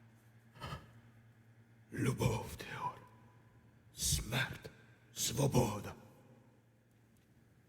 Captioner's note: Ukrainian